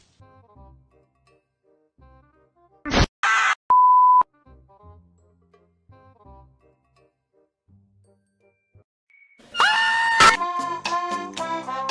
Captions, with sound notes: oh lawd he mad BWAAAAAAAAAAAAAAAAAAAAAA- *beep x3* P? Whats this? O? R?- OML NOOOOOOOOOOOOOOOOOOOOOOOOOOOOOOOOO-